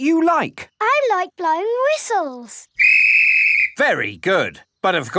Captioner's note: blows whistle